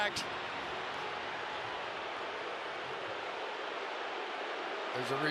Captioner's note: crowd clamoring